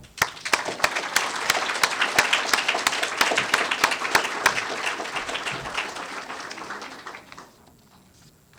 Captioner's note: applause